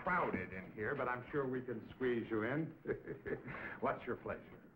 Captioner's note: laughing